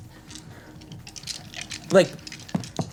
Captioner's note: dice rolling